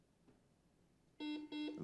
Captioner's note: buzzer buzzes